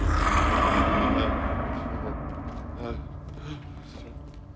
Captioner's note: growling; murphy moaning